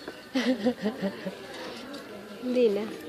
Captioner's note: giggles